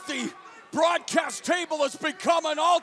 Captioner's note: crowd chatter